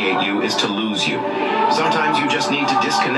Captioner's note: voiceover